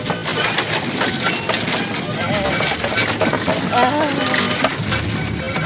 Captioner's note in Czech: sténá